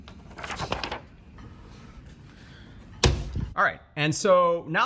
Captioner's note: paper rustling